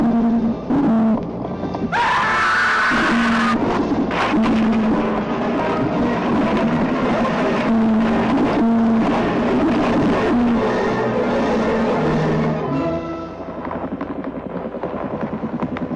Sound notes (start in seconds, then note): 1.9 scream